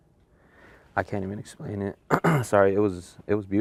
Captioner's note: coughs